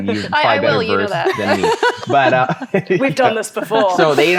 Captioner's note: all laughing